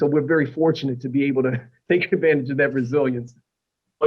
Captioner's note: laughter